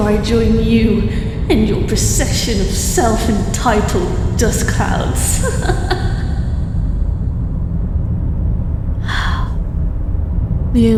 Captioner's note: insert weird laugh here